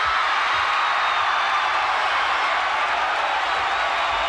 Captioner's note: audience cheering